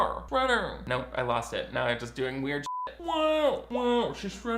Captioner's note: beep